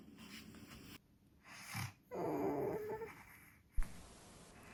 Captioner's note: snoring